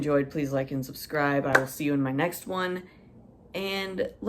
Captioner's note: clap!